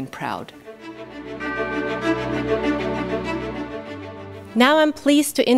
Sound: bright orchestral music; bell dings

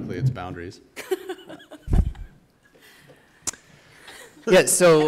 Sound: laughs

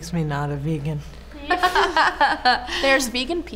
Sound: laughter

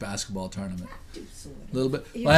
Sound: voiceover

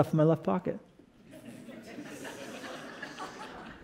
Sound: laughter

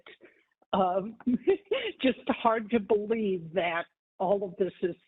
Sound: laughter

